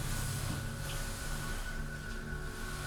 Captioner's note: none